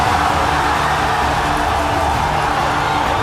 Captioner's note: huge cheering